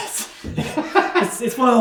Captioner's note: laughing